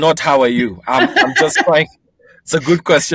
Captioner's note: laughs